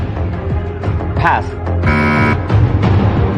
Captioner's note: buzzer sounds